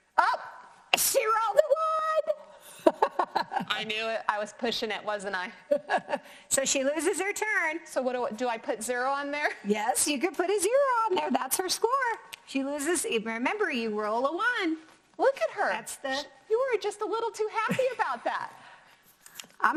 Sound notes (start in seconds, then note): 2.9 laughs; 5.6 laughs